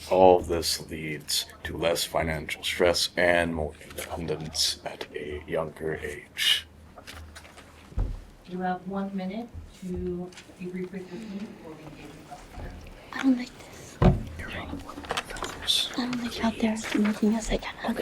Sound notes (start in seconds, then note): 14.3 students whisper